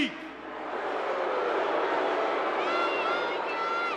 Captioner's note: crowd booing